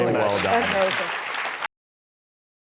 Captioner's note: crowd Applauds